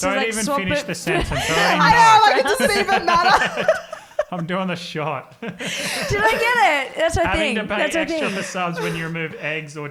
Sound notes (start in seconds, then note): 4.0 laughs; 5.7 laughs